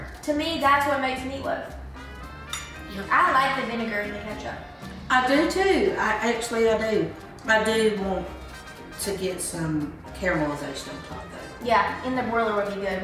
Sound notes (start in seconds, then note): none